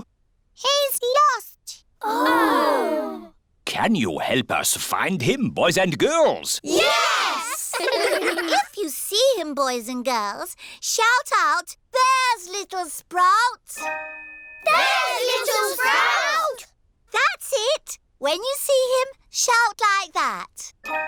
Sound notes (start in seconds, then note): 7.4 giggling